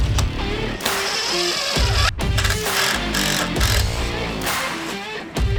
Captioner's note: electric handsaw whirring; drill whirring